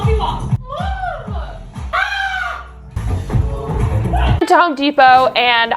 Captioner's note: mom imitates zombies growling